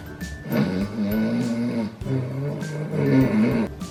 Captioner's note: loudly Snoring